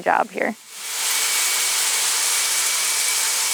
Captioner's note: machine noise